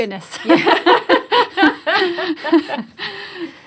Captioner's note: laughs